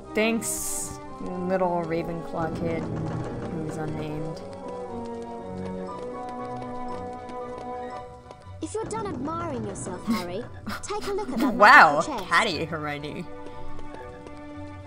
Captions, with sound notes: Thanks, little Ravenclaw kid who is unnamed. *laughter* Wow! Catty, Hermione!